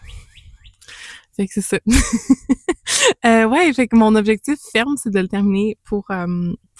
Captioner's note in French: rires